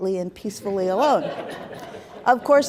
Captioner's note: laughter